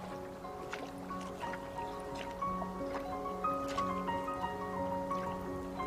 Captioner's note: water sloshing